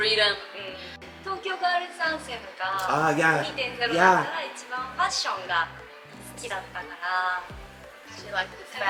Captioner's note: foreign language 00:08:18